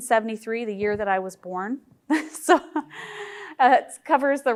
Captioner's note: chuckles